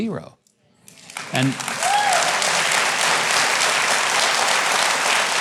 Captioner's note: audience claps and cheers